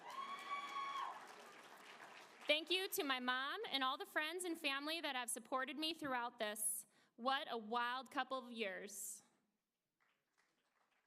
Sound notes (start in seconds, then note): 0.0 applause